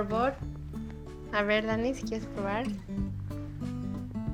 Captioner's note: speaking Spanish